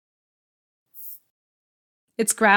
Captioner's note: tss